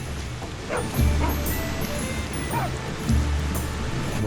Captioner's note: dogs barking